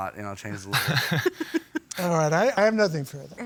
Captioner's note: laughs